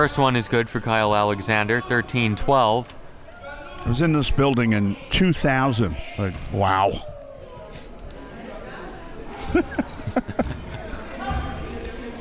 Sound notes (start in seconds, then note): 9.3 laughs